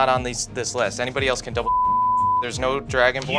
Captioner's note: beep